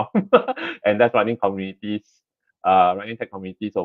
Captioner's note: laughs